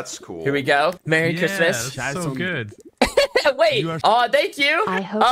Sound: laughs

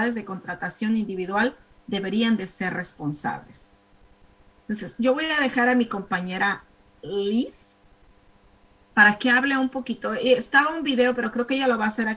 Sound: speaking spanish

